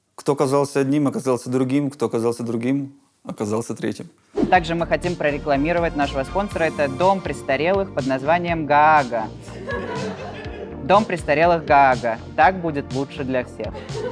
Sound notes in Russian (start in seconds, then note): 9.4 смех толпы